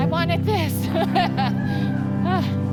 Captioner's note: laughs